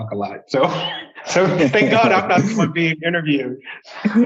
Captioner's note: laughs